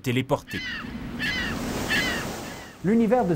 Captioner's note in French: cri des mouettes